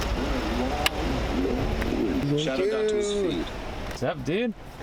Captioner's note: radio plays